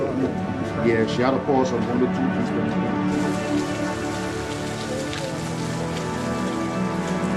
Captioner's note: rain pattering